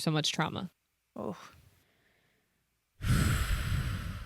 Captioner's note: wheezing